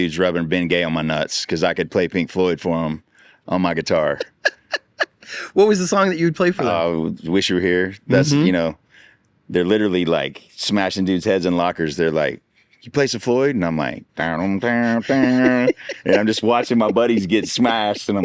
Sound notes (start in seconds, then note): 4.0 laughs; 14.9 imitates guitar playing